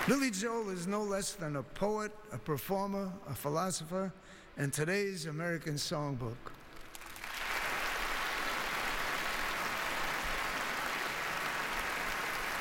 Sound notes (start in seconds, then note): 6.7 applause